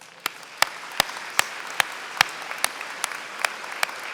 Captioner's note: applause